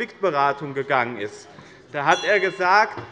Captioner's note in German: Unruhe - Glockenzeichen des Präsidenten